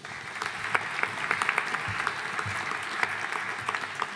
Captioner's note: audience applauding